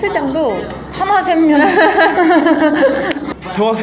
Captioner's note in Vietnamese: Cười; 웃음